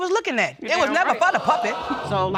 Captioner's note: audience groans